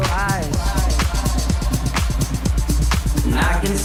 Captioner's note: echoing